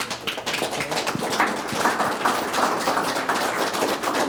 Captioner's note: audience applauds